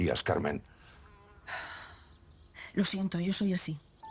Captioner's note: Carmen sighs